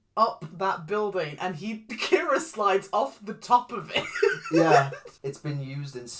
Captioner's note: laughs